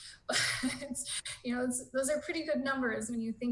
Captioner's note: chuckling